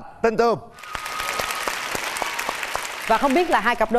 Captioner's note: applause